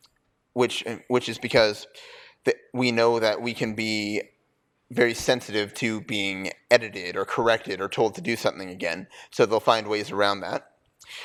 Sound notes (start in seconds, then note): none